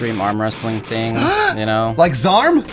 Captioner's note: gasps